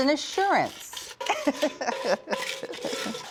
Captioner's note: laughs